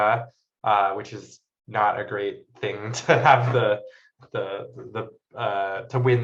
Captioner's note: chuckles